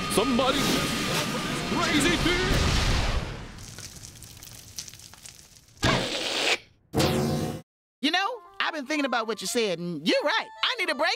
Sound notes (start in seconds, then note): 2.2 rocket explodes; 5.7 thuds